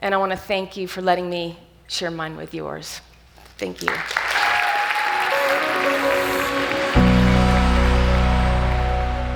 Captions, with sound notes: and I wanna thank you for letting me share mine with yours. Thank you. (audience cheers) (light music)